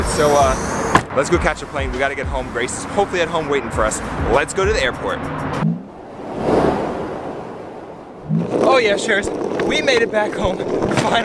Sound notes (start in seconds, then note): 5.4 whooshing